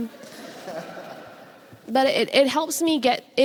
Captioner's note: audience laughs